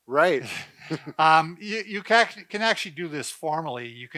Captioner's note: chuckling